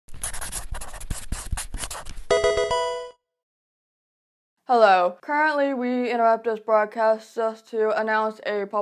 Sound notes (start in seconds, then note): 0.1 marker scratching; 2.3 electronic video game chime